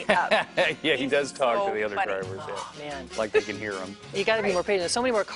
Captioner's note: laughter